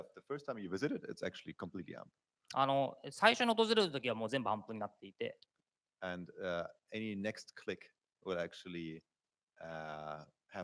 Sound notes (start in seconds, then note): 4.3 speaking japanese